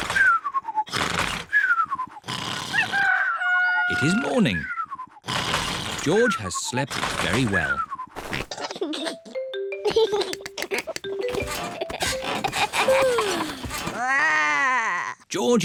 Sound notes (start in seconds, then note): 2.8 cockerel crows; 9.8 giggles; 13.5 growls; 13.5 yawns